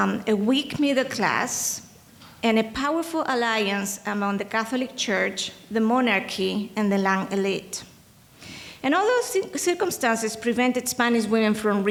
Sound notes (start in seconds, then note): 7.2 speaking in foreign language